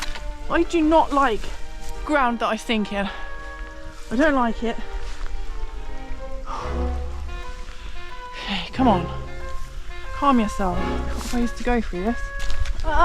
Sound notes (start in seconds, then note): 6.4 deep breath